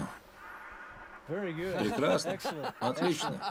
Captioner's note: laughs